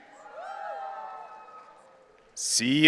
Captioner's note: audience cheering